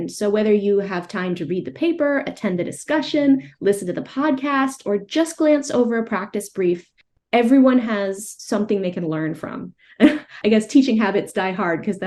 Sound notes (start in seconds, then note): 10.0 chuckles